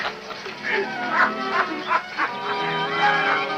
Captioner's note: laughter continues